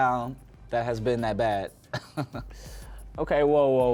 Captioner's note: laughing